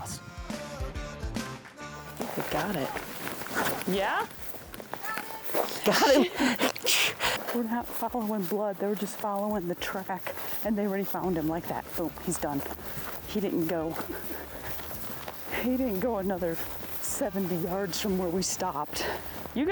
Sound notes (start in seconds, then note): 0.0 upbeat rock music; 5.0 laughing; 14.2 plants rustling